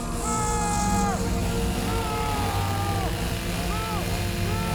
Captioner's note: person shouting